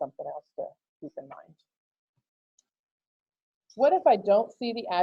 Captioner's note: click